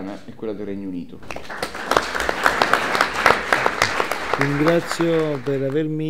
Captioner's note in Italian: applausi